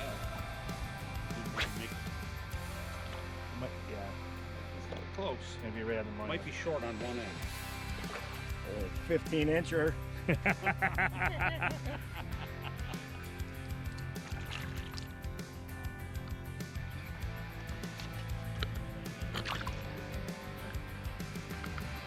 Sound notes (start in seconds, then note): 0.2 upbeat music; 10.1 laughs; 12.4 upbeat music